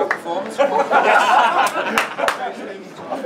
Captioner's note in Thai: ทุกคนหัวเราะ